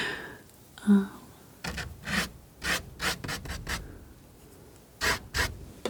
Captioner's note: scratching